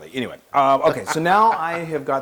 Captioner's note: laugh